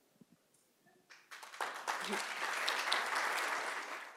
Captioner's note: applause